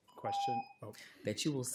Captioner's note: timer tone